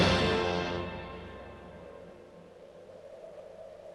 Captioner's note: wind howling